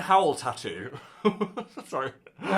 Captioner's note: host laughs